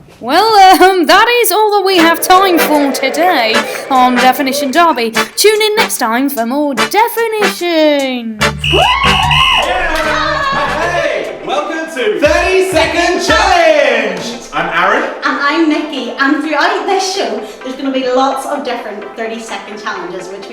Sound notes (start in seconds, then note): 8.6 loud whistling; 8.7 man and woman cheering